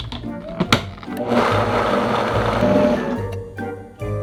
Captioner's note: blender running